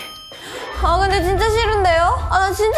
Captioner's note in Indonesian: Berteriak tanpa arti / Pertama kali melihat seperti ini